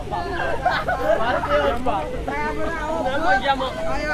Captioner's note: laughter